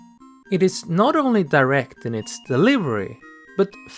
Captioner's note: none